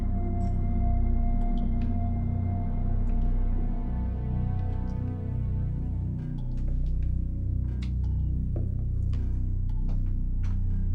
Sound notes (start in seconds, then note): 2.4 water dripping